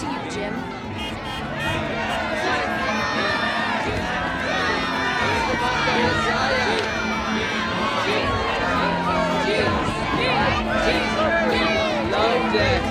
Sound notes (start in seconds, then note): 3.0 group chanting